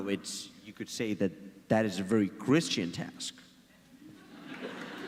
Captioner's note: audience laughs and claps